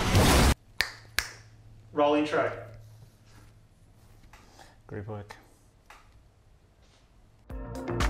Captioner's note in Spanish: chasquido de dedos